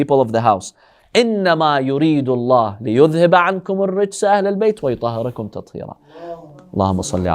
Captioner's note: Arabic